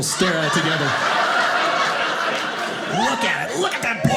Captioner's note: audience laughing